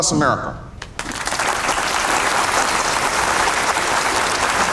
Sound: audience clapping

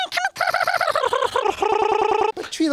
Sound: tongue roll reverses, slows down slightly, then stutters

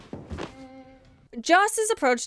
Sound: endless groans

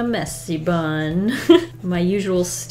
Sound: laughs

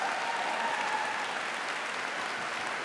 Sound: applause

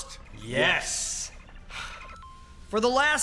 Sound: video game pause noise

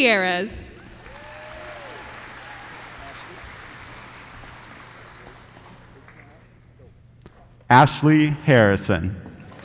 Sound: applause

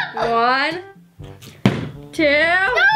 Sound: bottle landing

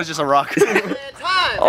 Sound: laughs

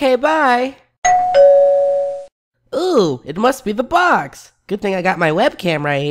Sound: ding dong

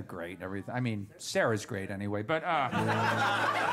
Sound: laughter

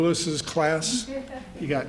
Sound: laughter

